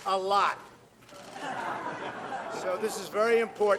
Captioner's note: laughter